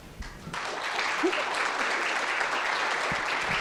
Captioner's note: applause